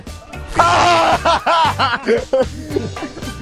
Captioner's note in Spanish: Gritos